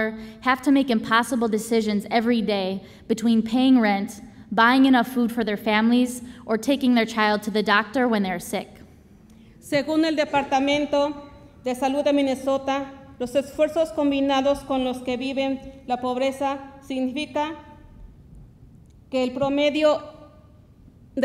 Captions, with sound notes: have to make impossible decisions everyday between paying rent, buying enough food for their families, or taking their child to the doctor when they are sick. - (speaks Spanish)